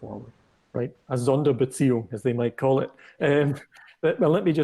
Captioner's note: speaking german